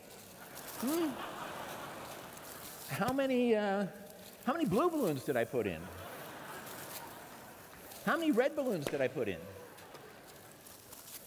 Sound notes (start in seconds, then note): 0.4 laughter; 5.6 laughter